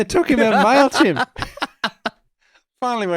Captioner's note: laughing